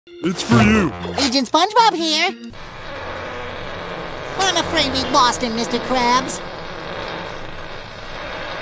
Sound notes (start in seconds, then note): 2.5 farting